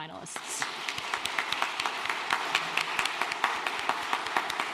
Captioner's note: applause